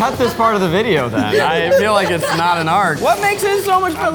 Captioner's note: group laughs